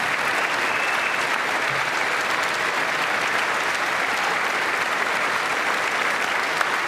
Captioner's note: applause